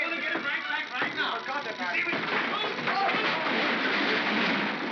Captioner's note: chattering sound of gears; crashing sound